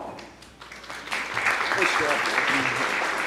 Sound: applause

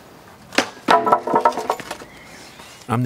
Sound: clatter of wood

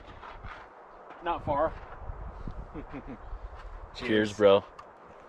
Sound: laughs

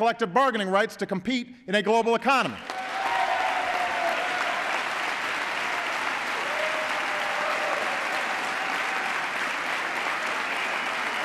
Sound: applause

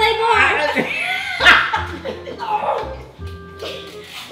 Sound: shouts and laughs

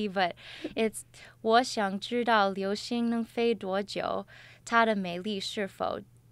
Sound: speaks in Chinese with pinyin

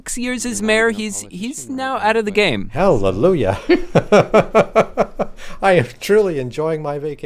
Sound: laughs

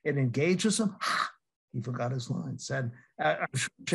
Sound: laughs

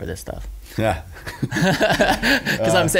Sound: laughs

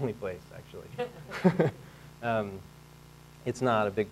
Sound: laughing

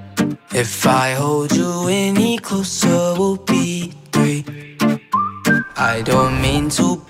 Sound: whistling

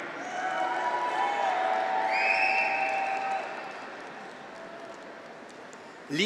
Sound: graduates cheer; audience applauds

